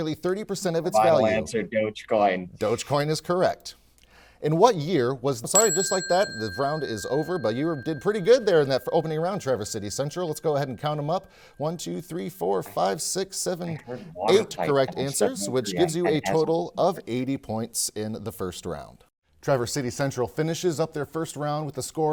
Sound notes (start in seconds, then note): 5.3 bell rings